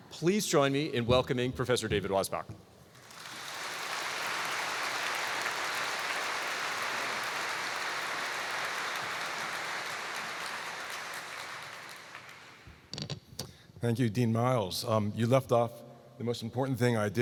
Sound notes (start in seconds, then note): 3.0 applause